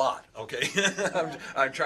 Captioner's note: laughter